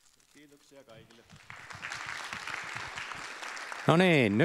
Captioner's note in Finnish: Aplodit